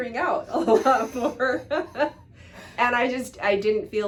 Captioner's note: both laughs